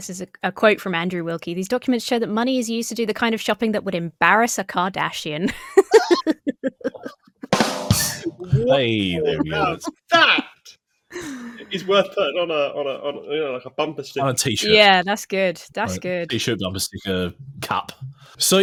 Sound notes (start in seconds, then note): 5.4 laughs; 5.9 drum fill plays